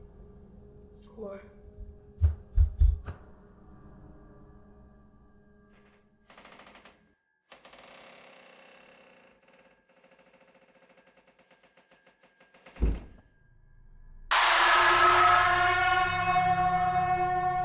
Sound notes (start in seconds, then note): 6.2 door creaking; 13.2 object thudding; 14.3 sudden screeching music